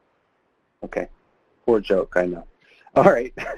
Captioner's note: laughing